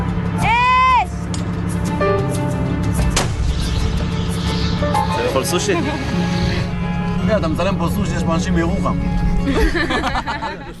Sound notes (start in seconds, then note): 3.1 explosion; 9.4 laughter